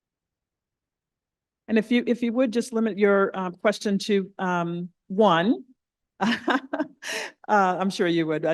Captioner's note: laughs